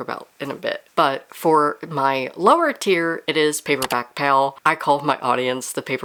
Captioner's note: mouse Click